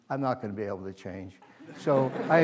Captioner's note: laughter